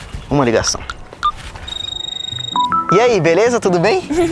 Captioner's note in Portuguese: Celular tocando